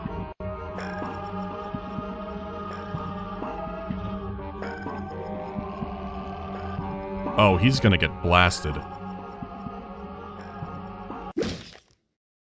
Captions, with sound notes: Oh, he’s gonna get blasted… [*thwack*]